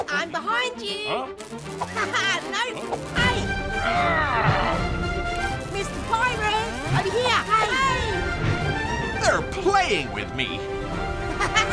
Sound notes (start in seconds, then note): 1.4 device whirs; 1.9 laughs; 3.8 alien growls; 11.2 Zediac laughs